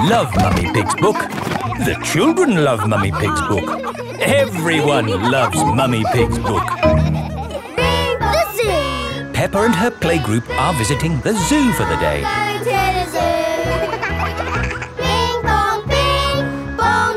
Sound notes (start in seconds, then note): 12.6 giggling; 15.3 all singing